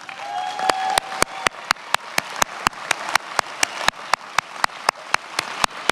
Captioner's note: attendees applauding and cheering